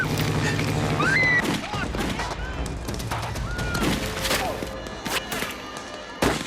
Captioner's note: woman screaming; gunfire and yelling